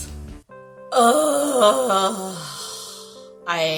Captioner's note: exaggerated groan